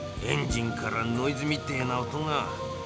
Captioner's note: none